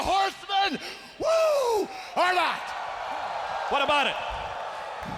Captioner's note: crowd cheering